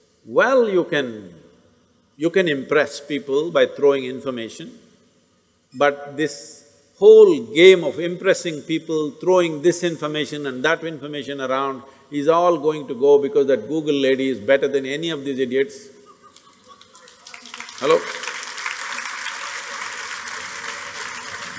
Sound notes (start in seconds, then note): 16.0 laughter; 18.6 laughter/Applause